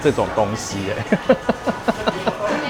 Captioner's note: laughter